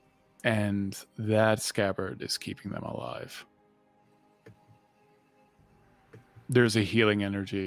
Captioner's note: none